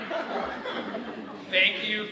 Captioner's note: all laughing